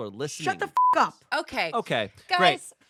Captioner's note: beep